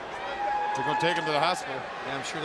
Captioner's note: crowd chatter